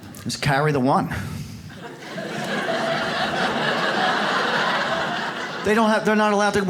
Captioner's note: audience laughs